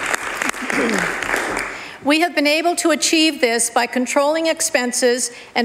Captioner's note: applause